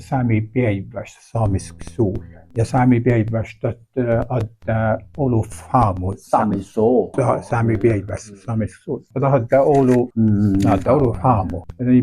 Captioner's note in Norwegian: svarer på nordsamisk; svarer på nordsamisk